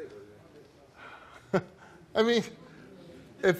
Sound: laughs

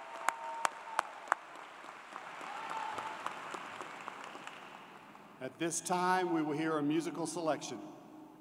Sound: cheers and Applause

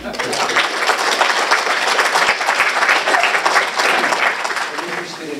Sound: audience applauding

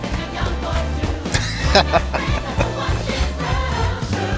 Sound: laughing

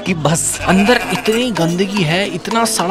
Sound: bleating

